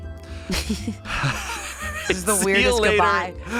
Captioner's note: everyone laughs